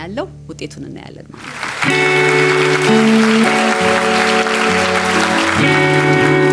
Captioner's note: applause